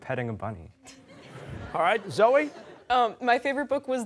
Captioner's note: laughter